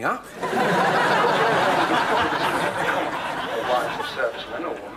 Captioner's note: audience laughing